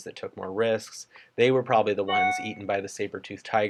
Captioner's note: computer chimes